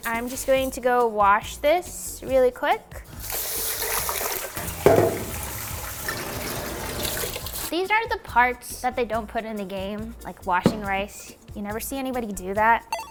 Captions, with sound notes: I'm just going to go wash this really quick. (water splashing) These are the parts that they don't put in the game, like, washing rice. You never see anybody do that.